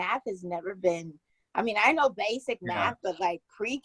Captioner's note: both laughing